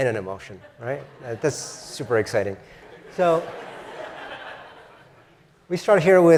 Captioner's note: laugh